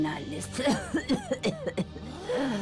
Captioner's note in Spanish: Personas exhalando sorprendidas